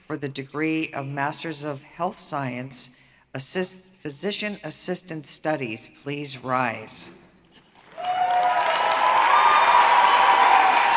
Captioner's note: applause